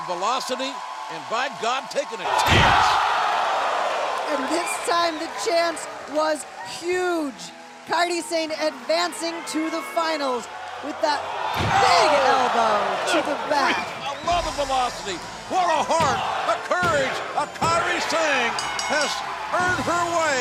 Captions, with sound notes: AND BY GOD, TAKING A CHANCE! >> AND THIS TIME THE CHANCE WAS HUGE. KAIRI SANE ADVANCING TO THE FINALS WITH THAT BIG ELBOW TO THE BACK. >> I LOVE THE VELOCITY. WHAT A HEART, THE COURAGE OF KAIRI SANE! [BELL RINGING] HAS EARNED HER WAY INTO THE